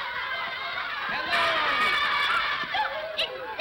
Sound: children clamor; children laughing

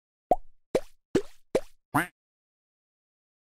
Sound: on screen graphics pop and duck quacks

